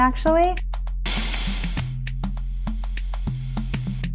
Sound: white noise

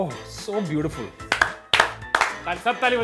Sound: clap

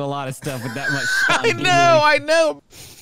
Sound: laughs

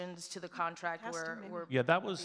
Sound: faintly speaking

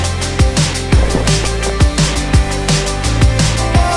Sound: flags billow in the breeze

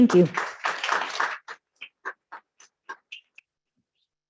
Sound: clapping

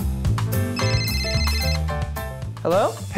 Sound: phone ringing

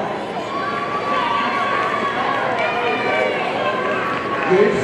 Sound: audience cheering

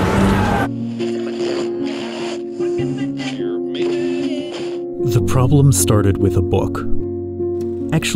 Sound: dragon Roaring

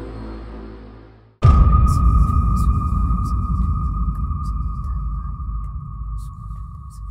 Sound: suspenseful music; whispering

